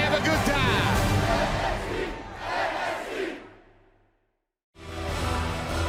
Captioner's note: crowd cheering